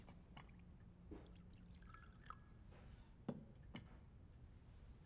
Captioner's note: tea trickles